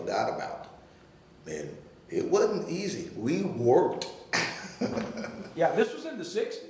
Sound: laughing

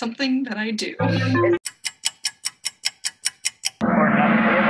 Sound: clock ticking

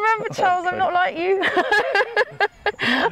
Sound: laughs

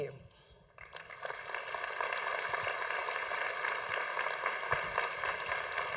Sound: congregation applauding

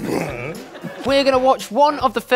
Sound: laughs

